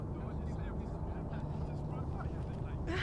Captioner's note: chatter in background